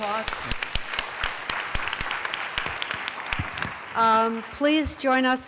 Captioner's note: applause